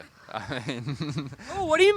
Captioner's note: laughs